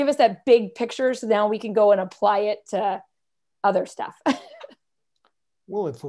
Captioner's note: laughter